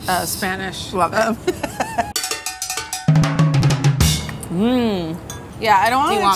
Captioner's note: laughter